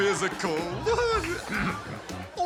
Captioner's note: laughs, clears throat